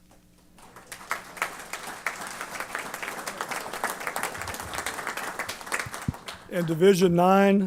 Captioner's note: applause